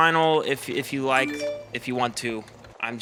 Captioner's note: text alert sound on phone